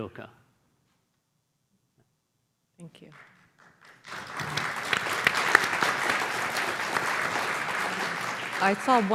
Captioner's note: applause